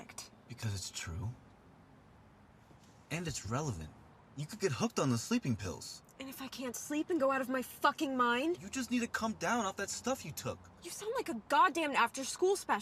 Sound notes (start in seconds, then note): none